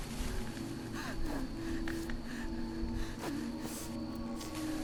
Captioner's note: Sarah breathing heavily